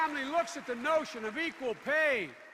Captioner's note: applause